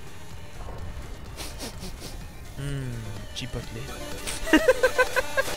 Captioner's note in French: renifle; rire